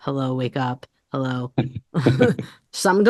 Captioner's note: laughing